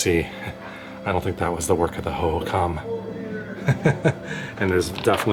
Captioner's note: laughter